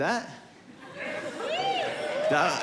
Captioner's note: cheers